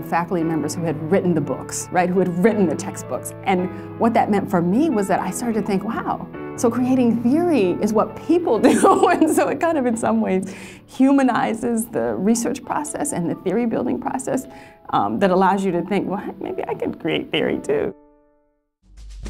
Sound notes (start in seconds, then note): 8.7 laughs; 19.0 bright music